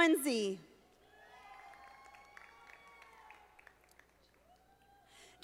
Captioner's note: audience applauding